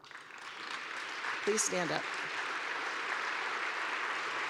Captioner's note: applause